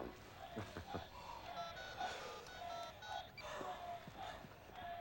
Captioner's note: dialing cell phone